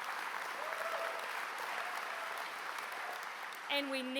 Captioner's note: applause